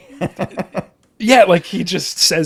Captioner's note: laughing